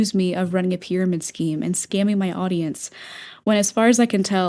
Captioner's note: inhale